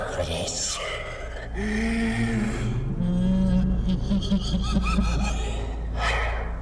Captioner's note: threatening ghost mumbles; laughter